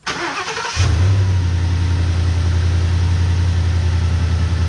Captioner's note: truck engine starts; engine rumbling